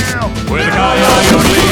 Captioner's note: wolf howling